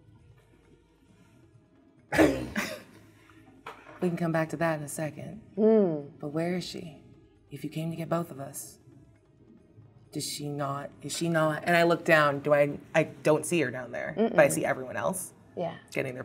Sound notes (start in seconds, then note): 2.1 laughs